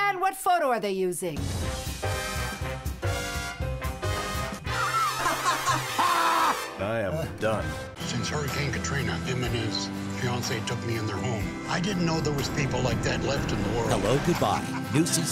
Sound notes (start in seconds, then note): 1.6 ballroom jazz; 4.8 laughing